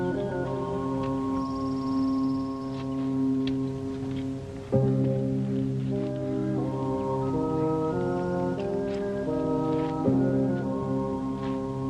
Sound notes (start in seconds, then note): 7.4 shouting